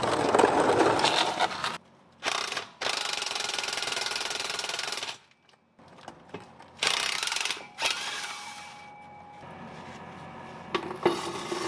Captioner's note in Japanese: 作業音